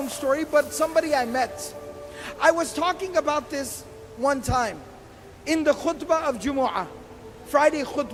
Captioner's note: arabic lang